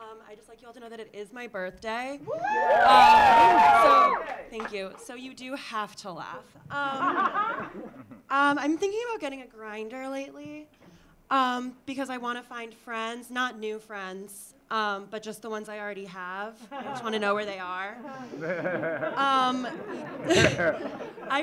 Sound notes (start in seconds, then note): 2.2 audience cheering; 6.8 audience laughing; 16.7 audience laughing; 19.6 audience laughing